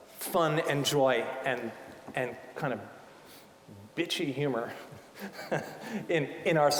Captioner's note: laughing